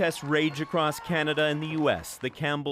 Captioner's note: applause